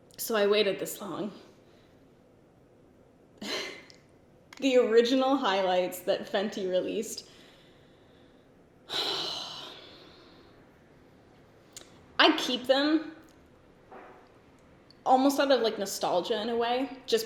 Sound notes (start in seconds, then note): 3.1 giggles; 8.9 sighs